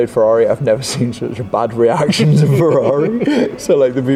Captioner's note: laughs